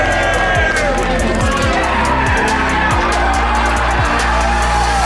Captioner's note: cheering and screaming